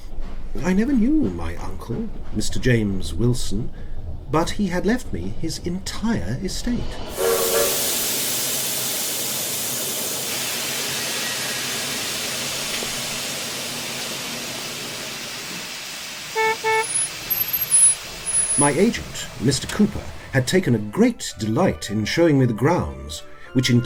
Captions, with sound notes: I never knew my uncle, Mr James Wilson but he had left me his entire estate. [Train whistle and steam] [Car horn] My agent Mr. Cooper had taken a great delight in showing me the grounds